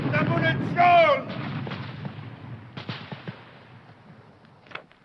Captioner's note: shouting foreign language